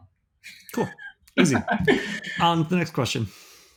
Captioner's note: laughing